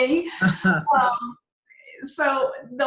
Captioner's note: both laugh